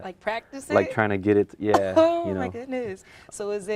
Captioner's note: laughs